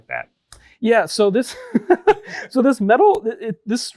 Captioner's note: laughs